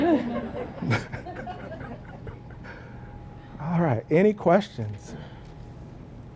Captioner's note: laugh